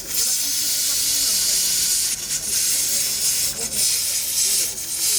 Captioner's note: coffee sizzling